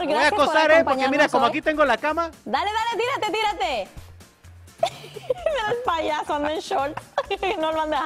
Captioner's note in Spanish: risas